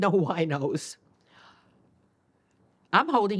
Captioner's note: gasps